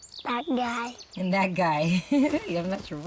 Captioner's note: chuckling